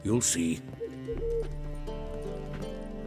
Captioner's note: hoot